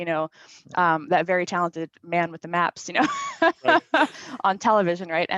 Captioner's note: laughs